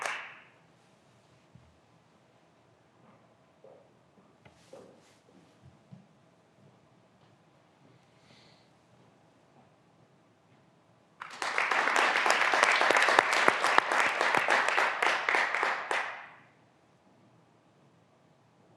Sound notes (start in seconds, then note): 11.2 graduands applauding